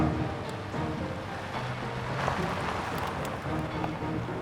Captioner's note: car approaches